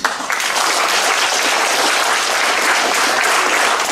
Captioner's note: audience applauds